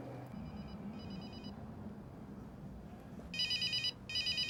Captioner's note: phone ringing